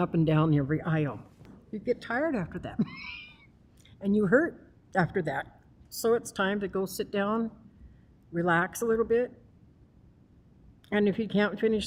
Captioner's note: laughs